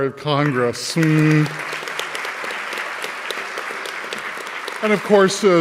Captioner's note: audience clapping